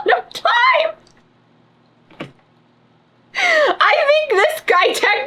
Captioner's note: laughs